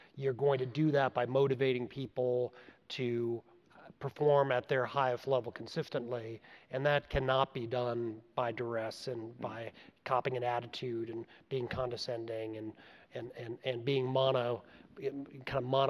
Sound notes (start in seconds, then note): none